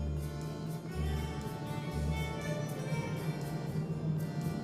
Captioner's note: car engine roars